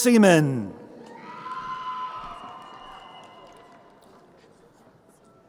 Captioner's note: crowd cheering